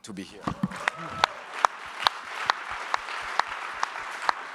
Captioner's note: audience applauds